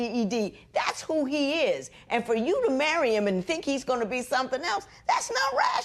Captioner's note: none